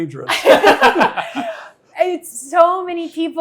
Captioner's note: all laughing